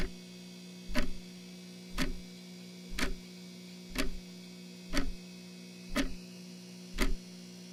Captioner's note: clock continues